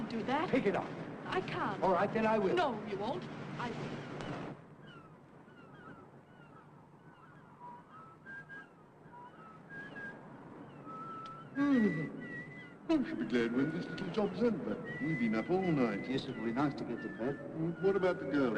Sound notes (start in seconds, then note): 7.0 Harry whistles; 9.5 yawns